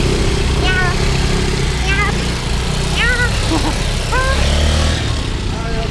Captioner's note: laughs